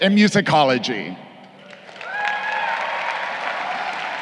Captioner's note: crowd cheering